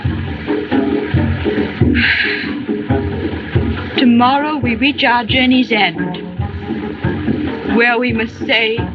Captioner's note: sighs